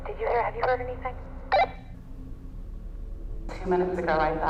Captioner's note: walkie-talkie blips